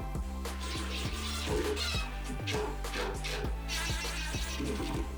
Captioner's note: drill turning